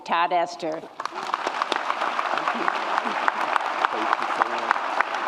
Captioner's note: audience applauds